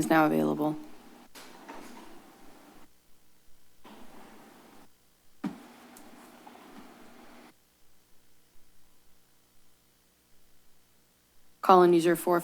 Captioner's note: silence